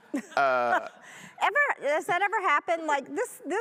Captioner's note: audience laughing